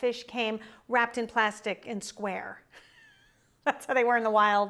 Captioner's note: laughs